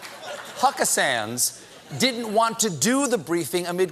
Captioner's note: laughter